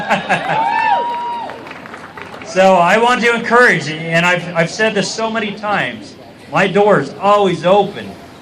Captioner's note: cheers